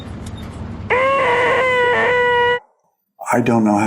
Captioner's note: screams